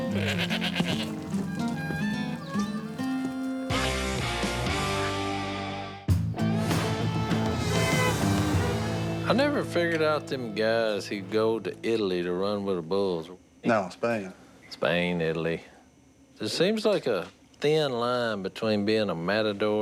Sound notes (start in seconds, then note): 0.0 goat bleating; 6.4 upbeat music; 7.7 car honks